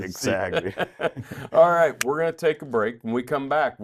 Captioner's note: laughs